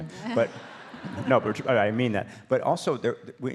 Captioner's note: audience laughs